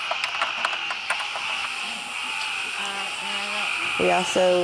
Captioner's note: insects sing, frogs croak